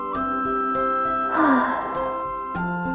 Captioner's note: sigh